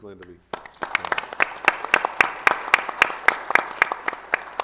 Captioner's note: audience applauds